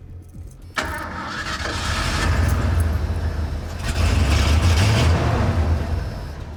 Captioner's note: fires up engine